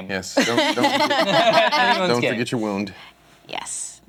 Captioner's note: laughter